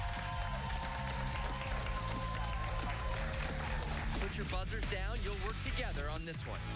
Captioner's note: cheers and applause